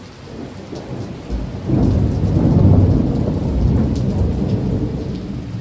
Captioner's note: loud thunder clap